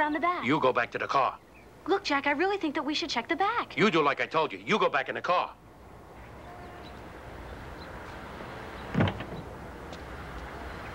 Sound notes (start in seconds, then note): 5.6 traffic whooshing